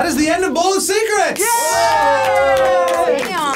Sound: group cheers

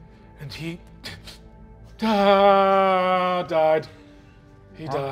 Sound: whimpering

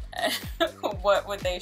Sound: chuckles

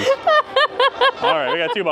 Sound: laughing

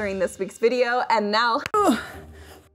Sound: grunting

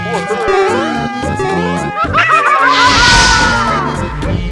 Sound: screaming

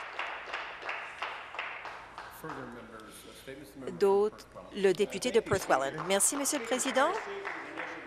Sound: applause

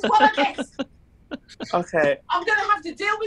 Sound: laughing

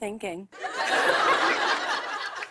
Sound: laughter

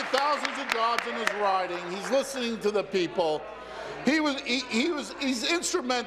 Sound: applause

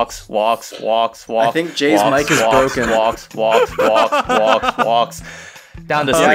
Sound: inhale

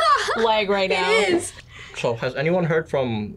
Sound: laughs

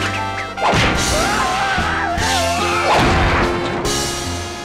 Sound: Eddy screams

